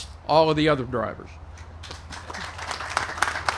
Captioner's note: applause